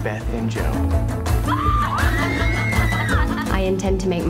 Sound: woman screaming

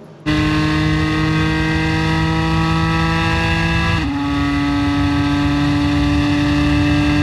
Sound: car engines

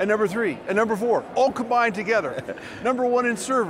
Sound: laughs

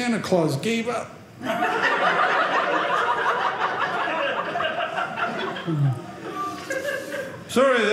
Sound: audience laughing

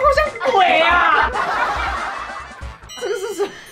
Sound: dying from laughing

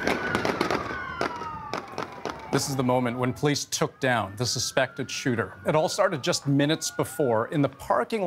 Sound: gunshots; sirens

